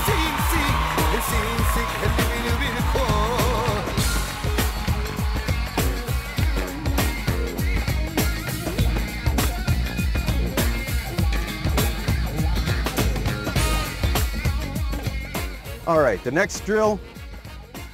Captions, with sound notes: (cheering) All right, the next drill.